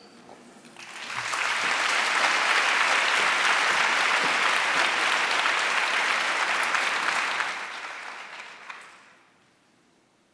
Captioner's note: applause